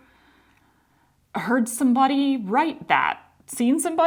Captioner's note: none